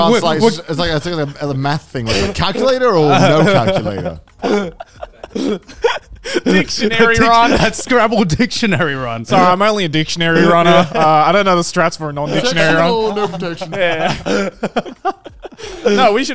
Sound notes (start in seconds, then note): 0.0 all laughing; 3.8 laughing; 12.2 laughing